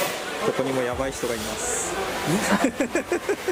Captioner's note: laughs